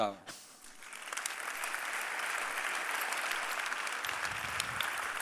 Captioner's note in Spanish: Aplausos